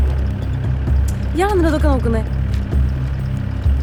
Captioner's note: irritated